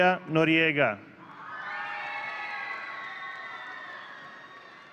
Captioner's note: audience cheering